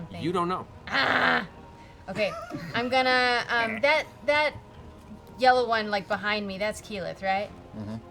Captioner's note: groans